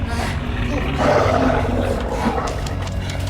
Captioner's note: creature growls; footsteps